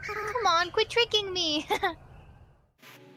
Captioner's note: laughs